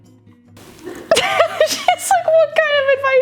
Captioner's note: laughing